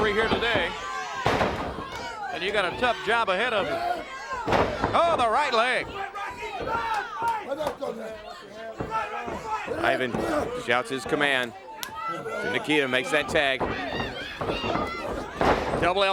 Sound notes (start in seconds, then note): 7.4 crowd chatter